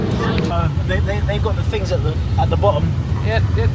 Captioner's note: children talking